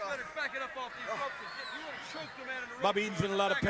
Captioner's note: crowd chatter